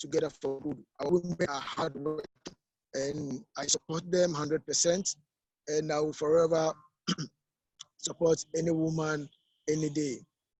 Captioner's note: unstable audio connection